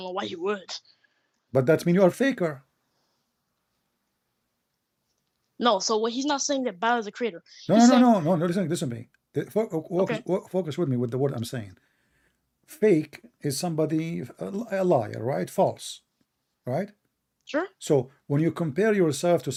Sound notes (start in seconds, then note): 7.7 Bertepuk tangan